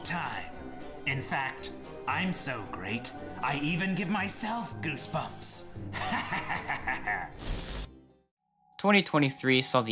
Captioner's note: evil laughter